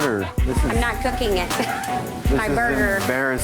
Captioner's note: laughs